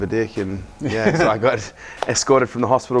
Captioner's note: laughing